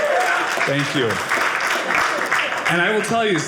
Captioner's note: audience applauding